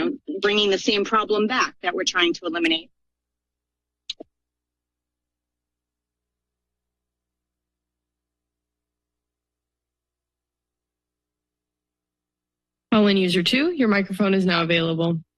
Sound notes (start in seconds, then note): 3.2 silence